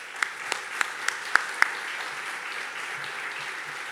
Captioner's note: audience clapping